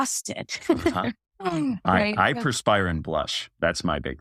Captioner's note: laugh